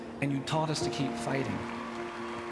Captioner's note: crowd cheering